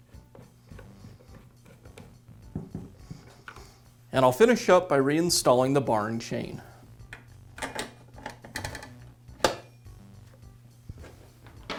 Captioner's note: pause